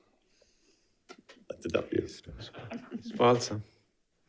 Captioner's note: light chuckling